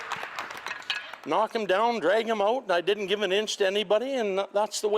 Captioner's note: applause